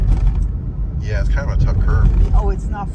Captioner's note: car jiggles